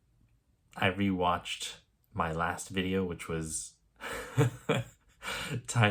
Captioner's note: chuckle